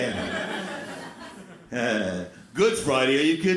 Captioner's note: crowd laughs